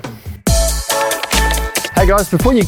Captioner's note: keyboard strokes